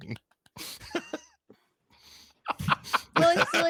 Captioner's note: laughs